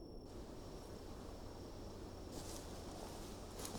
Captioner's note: crickets chirping